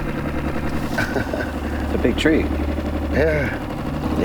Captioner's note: laughing